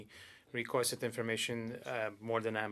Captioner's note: speaking French